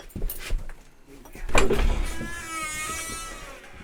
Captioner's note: door squeaking